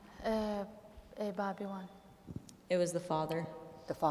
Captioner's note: speaking kurdish